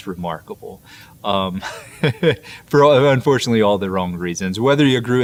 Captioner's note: laughs